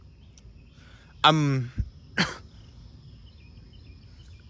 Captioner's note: coughs